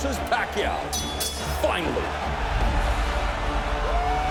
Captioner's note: bell rings